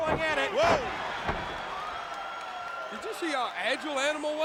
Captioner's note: crowd cheering